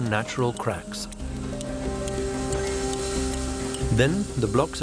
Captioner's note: sound of machinery